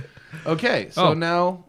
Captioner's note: laughter